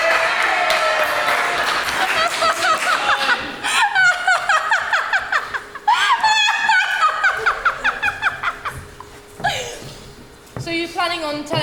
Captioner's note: audience applauds/laughs